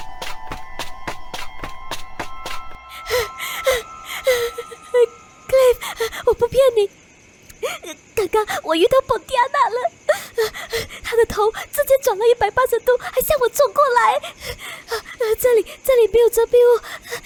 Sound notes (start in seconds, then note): 3.0 panting heavily